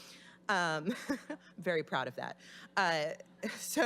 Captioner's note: laughing